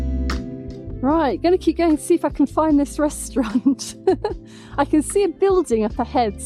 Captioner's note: laughing